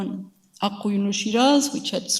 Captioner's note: speaks in a foreign language